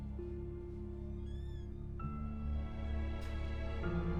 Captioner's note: door creaks